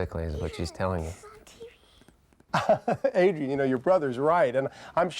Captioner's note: chuckles